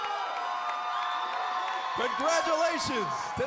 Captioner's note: crowd cheering